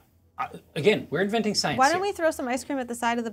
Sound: none

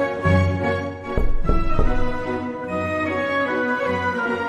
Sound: dramatic music; knuckles thudding

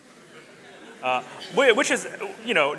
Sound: audience laughs

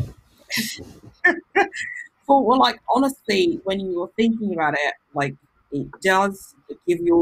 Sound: laughs

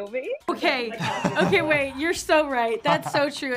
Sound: Anthony laughing

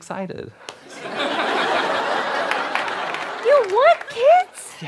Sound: audience laughter

